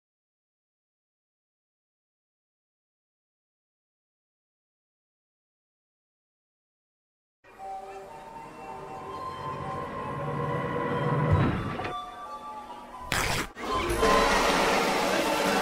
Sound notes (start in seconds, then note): 7.4 festive circus ambience; 11.2 airplane thud; 13.0 fabric rip; 13.8 drum roll